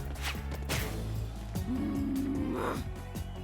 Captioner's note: growl